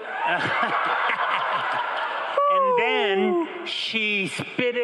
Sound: crowd and laughing

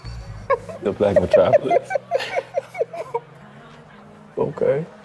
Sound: laughs

